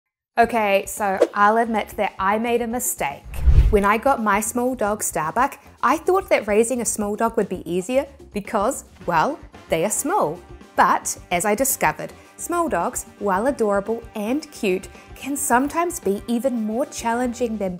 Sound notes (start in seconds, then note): 1.6 graphics whooshing; 3.2 soft groovy music